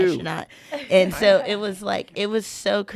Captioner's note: laughing in unison